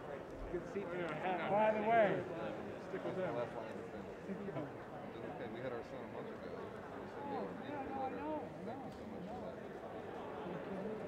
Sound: indistinct chatter

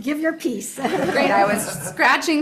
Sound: audience laughing

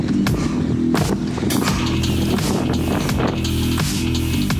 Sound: heavy breathing

